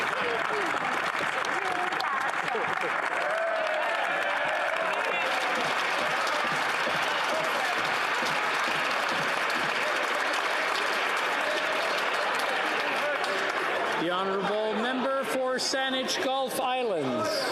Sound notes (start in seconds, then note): 3.9 some Applause